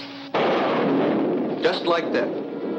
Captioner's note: lightning cracks